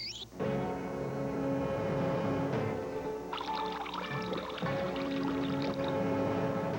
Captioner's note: water pouring